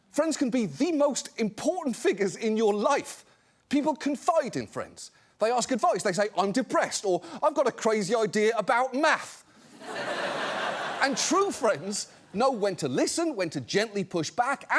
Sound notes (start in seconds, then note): 9.6 audience laughs